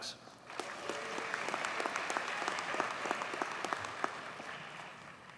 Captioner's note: audience cheers and applauds